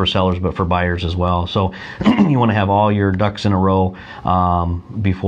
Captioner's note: clears throat